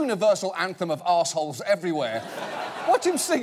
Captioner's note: audience laughing